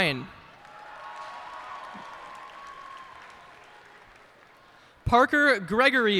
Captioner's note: cheers and applause